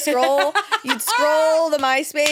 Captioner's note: laughs